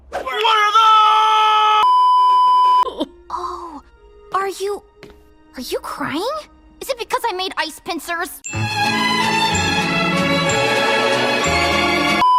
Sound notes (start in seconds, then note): 3.1 crying